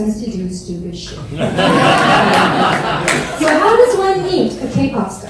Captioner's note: audience laugh